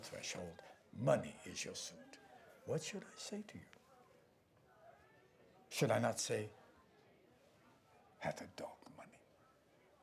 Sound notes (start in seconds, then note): none